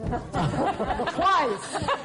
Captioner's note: laughter